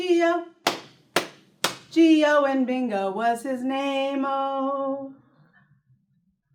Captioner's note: clap